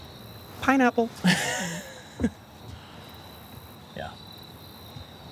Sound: Sam laughing

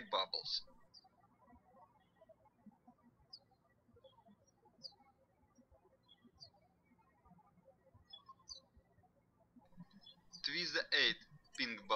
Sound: birds chirping

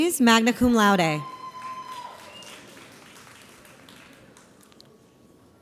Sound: audience applauds

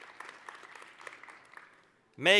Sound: applause

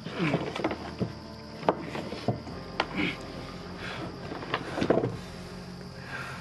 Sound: boards creaking; Caleb grunting; somber music

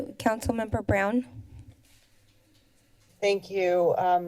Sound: silence

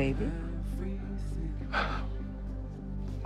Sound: sighs

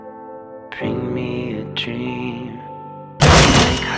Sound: gun showdown

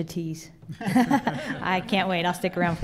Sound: laughter

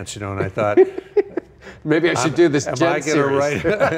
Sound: laughing

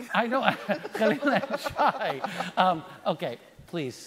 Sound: laughing

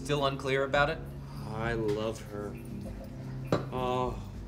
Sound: drunkenly; sighs

